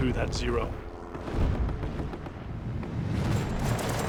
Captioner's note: gunshots